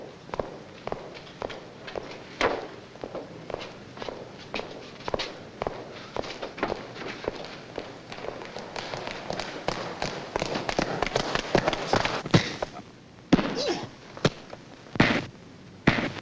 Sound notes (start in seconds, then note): 13.3 blows landing; 13.3 punch landing